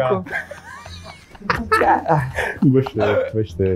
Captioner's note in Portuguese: risadas